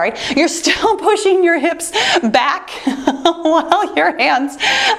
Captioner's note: laughing